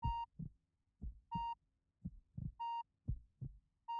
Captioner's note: heart beating